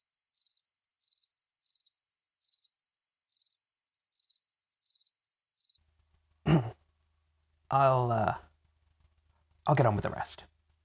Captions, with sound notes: [Awkward cough] …I’ll get on with the rest